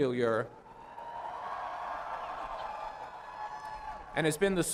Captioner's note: applause